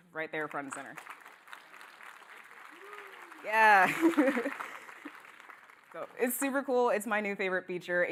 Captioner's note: applause